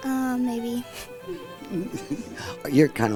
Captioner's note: chuckles